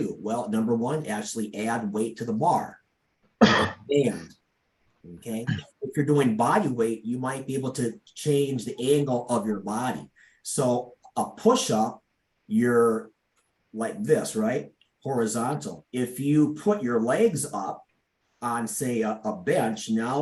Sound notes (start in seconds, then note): 3.4 coughing drowns out speaker